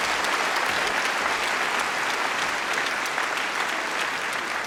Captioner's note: cheering & Applause